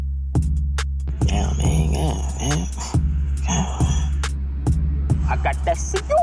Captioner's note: more disapointed gibberish